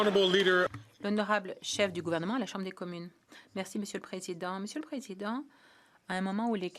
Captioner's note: some Applause